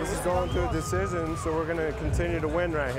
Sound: cheers and applause

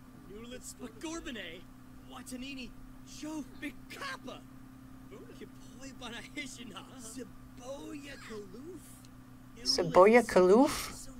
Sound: Simlish

